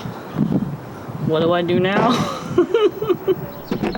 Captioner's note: laughs